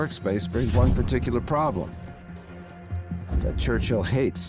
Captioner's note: telephone rings